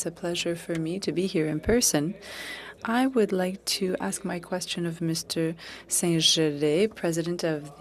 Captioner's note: speaking French